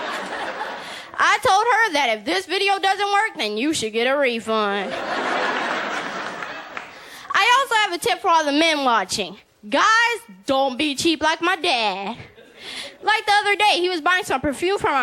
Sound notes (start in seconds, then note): 0.0 laughter; 4.9 laughter & Applause; 12.2 laughter